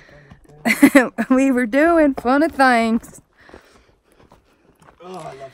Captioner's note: in Southern American accent